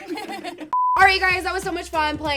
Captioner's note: girls laugh; beep